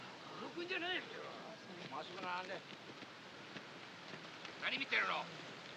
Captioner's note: speaking Japanese